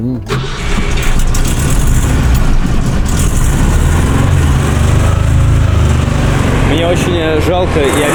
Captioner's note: starting car engine